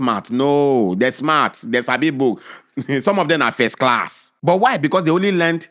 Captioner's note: chuckles